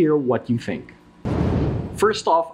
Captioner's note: whooshing